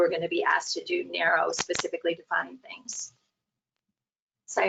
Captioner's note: audio distortion